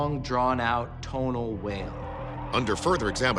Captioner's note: alleged bigfoot roaring